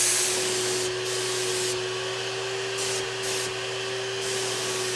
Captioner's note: machine whirring